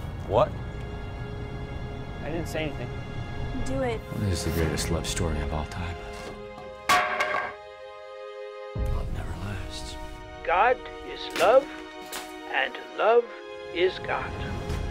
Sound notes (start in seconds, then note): 6.5 clattering wood